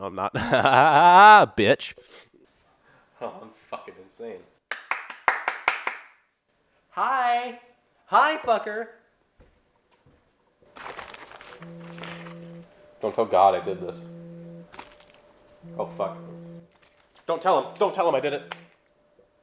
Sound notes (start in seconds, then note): 4.7 clapping; 11.2 phone buzzing